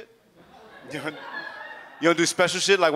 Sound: audience laughs

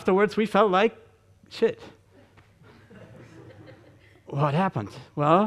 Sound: audience chuckling

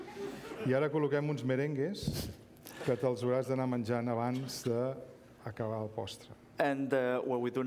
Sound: speaking catalan

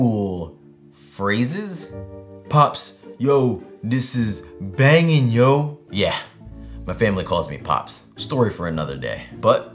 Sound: imitating voice

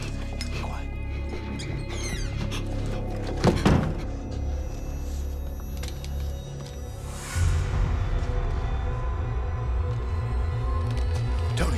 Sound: door squeaks

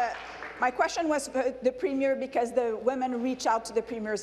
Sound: applause

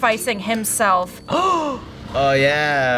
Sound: gasping

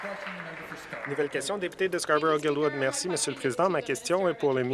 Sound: some Applause

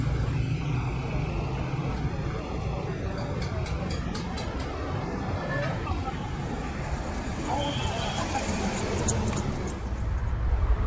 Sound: street noises, roar of chatter

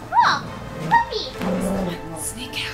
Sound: dog growling

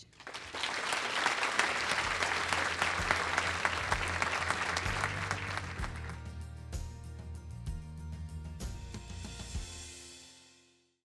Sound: applause/music

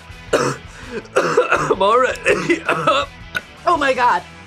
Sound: coughs; burps

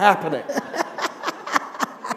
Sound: laughter

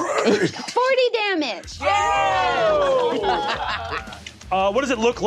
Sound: all cheering; rock music

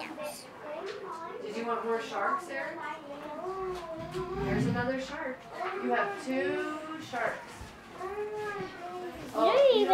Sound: background classroom chatter

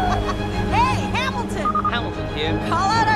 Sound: orchestral music; laughts

